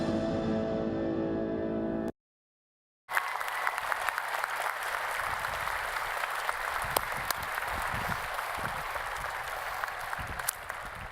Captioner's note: applause